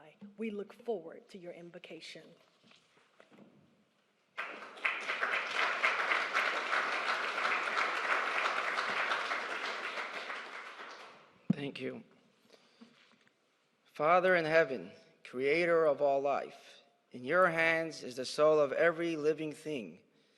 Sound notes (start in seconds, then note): 4.3 applause